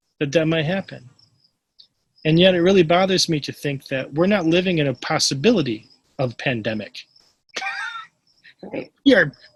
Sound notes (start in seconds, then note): 7.5 laughs